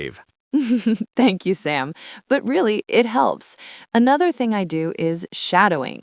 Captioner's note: laughs